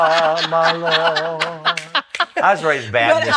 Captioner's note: laughs